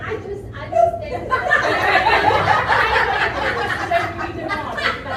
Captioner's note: audience laughs